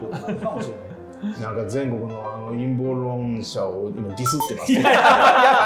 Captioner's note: laughing